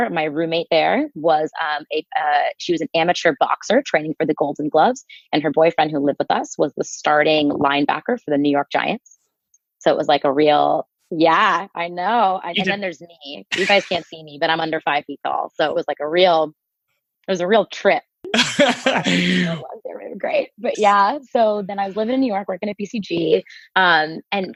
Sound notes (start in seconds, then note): 18.3 laughing